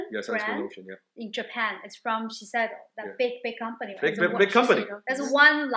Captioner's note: speaks Japanese